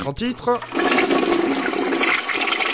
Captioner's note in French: bruit de chasse-d'eau